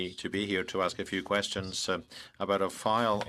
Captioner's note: speaking in French